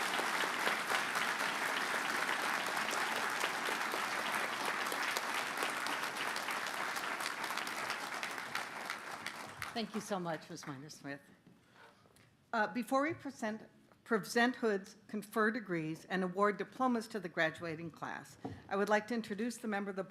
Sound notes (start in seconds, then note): 7.4 applause